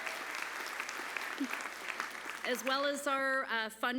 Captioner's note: applause